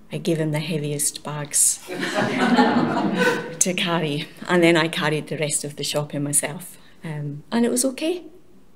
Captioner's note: laughter